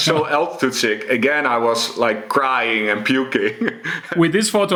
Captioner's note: chuckles